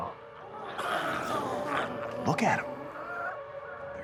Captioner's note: glowzies growling